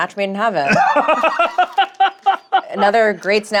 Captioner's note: laughs